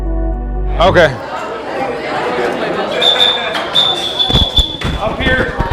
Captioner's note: random student conversations; whistle tweets